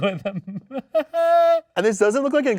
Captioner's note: host laughs